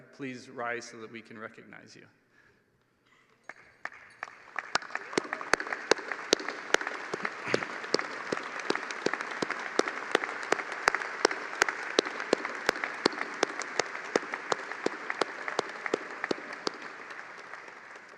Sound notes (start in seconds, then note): 9.3 applause